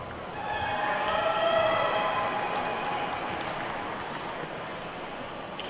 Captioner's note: attendees whooping and clapping